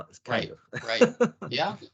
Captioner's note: laughing